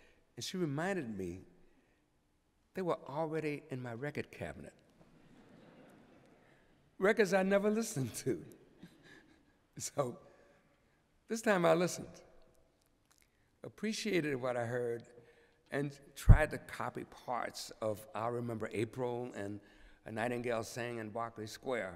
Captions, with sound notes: and she reminded me they were already in my record cabinet-- [LAUGHTER] --records I never listened to. So this time I listened, appreciated what I heard, and tried to copy parts of "I'll Remember April" and "A Nightingale Sang in Berkeley Square."